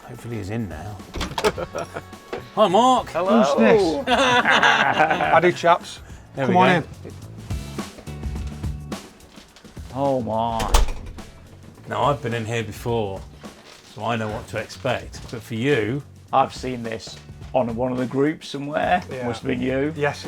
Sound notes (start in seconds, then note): 1.1 door clicks open; 3.2 laughing; 3.4 both laughing